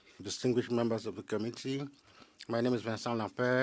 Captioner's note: speaking French